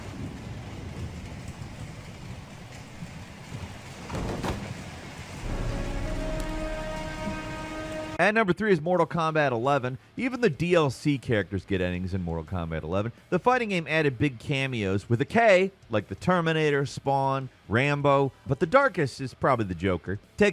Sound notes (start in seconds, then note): 4.7 rain splashing; 5.4 suspenseful music